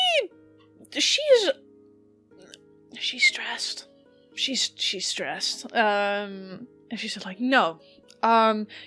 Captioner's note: whispering